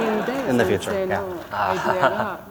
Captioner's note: laughter